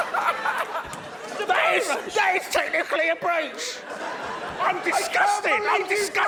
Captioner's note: laughter; laughter